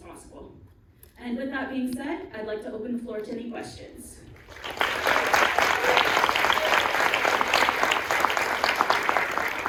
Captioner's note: applause